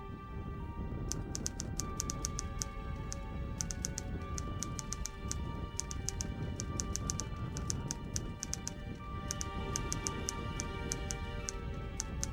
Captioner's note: typing sound